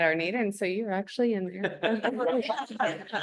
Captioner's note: laughter